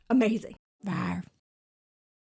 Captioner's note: dinosaur growling